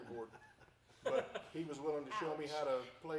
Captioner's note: group laughing